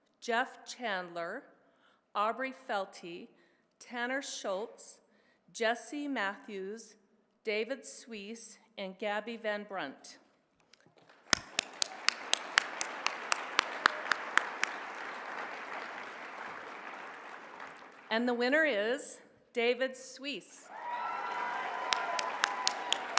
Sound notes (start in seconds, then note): 11.0 applause; 20.7 applause